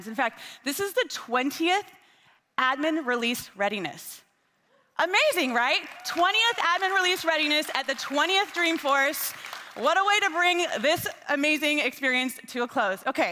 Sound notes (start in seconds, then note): 5.5 attendees cheering